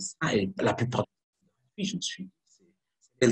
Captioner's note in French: coupure audio